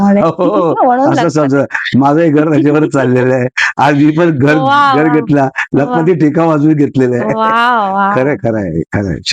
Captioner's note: laughs